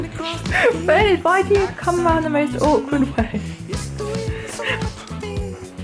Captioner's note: laughing